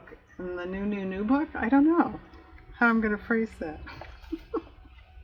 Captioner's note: laughs